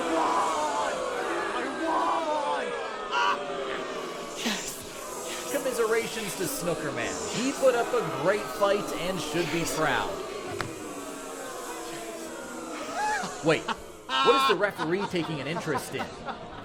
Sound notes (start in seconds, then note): 4.0 Wolfgang laughs; 9.9 audience boos